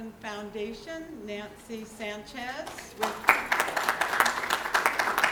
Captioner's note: applause